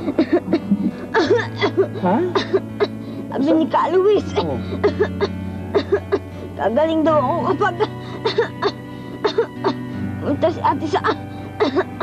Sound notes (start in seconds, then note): 0.0 coughing intensifies; 5.7 coughs